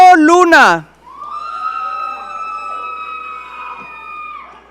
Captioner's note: audience cheering